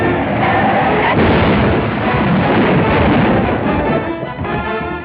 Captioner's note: crash; fast-paced music